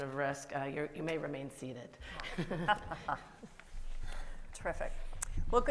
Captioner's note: panel laughs